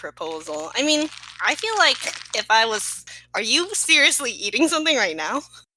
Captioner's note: crinkling noises